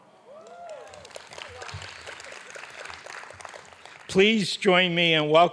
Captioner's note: audience applauding